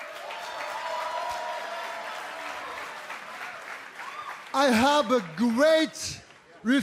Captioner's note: cheers and applause